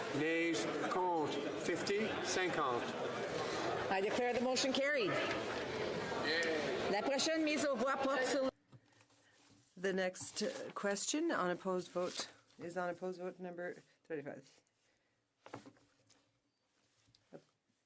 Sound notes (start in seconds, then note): 11.9 speaking French